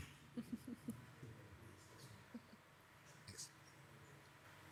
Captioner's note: woman laughing